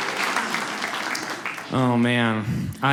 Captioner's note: audience laughs